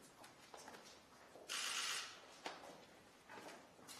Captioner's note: camera shutters clicking